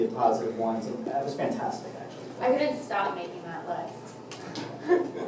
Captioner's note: laugh